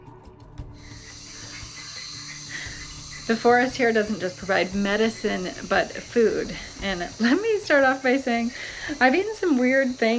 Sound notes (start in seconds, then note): 1.4 insects trilling and creatures screeching